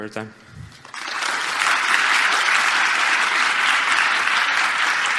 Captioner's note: audience applauds